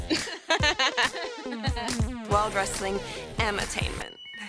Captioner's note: laughter